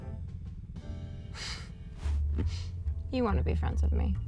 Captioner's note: chuckles softly